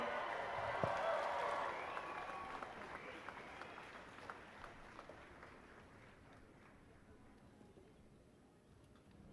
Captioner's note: cheers and applause